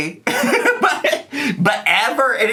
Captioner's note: laughs